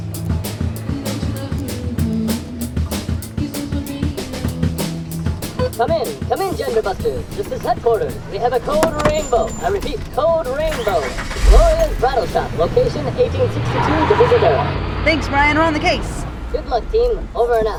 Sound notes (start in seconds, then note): 11.1 engine starts